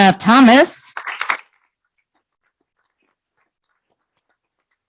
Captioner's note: applause